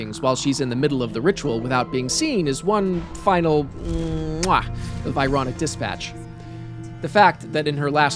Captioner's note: chef’s kiss